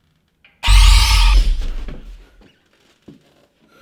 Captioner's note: screeching